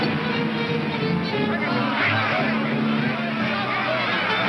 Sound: people shouting

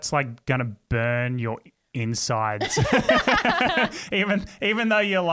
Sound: laugh

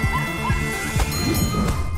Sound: music playing, screaming; dinging

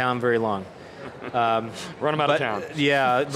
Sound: laughing

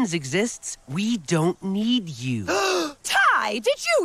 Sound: gasps

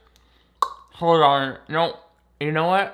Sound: clicks tongue

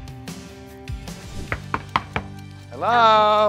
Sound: gentle knocking

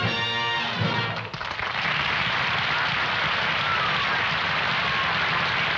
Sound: applause

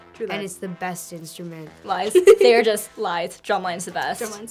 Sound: laughs

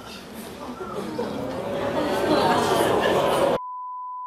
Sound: audience jeers

